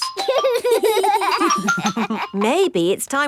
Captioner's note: giggling